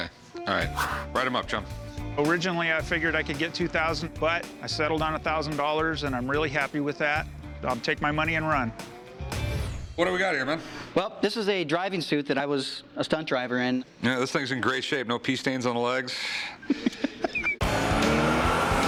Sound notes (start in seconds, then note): 16.5 laughs